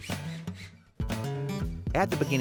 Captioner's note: drilling